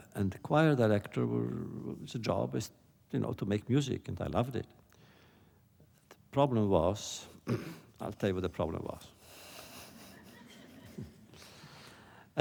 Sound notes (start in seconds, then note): 9.7 laughter